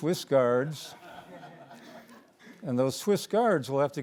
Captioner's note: audience laughing